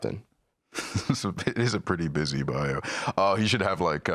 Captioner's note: laughs